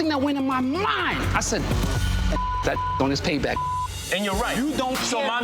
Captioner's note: beep